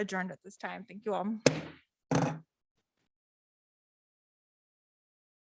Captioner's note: hammer banging